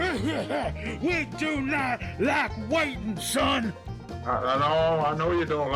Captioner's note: more coughing